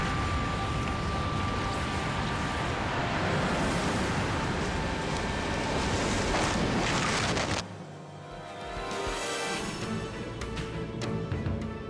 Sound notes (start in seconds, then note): 2.5 dramatic music; 6.1 snow crunches; 7.7 dramatic music